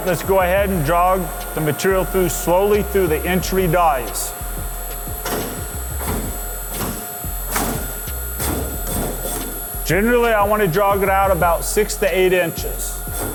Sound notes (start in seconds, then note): 5.7 machine clanking